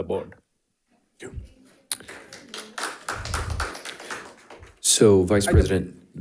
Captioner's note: audience applauding